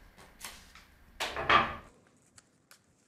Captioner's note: clattering